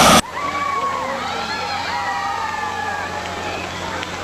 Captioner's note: crowd cheers